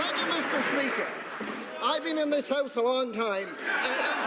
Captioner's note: some laughter